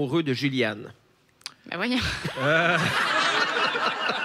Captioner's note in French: rires